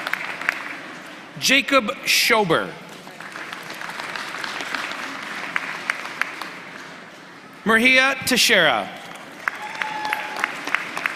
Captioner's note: applause